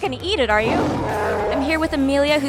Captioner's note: Wookiee roar